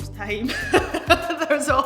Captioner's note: laughing